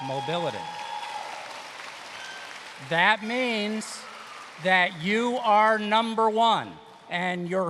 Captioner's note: applause